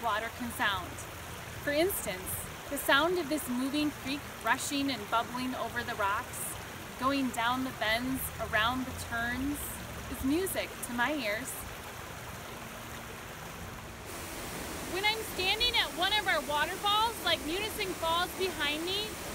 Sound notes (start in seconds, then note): 0.0 gentle water sounds; 12.3 gentle water sounds; 14.2 loud water sounds